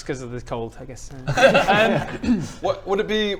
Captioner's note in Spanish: risa aliviada